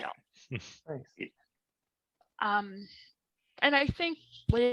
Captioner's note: chuckles